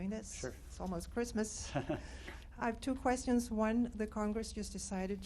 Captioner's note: laughter